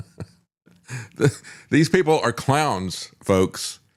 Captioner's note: laughs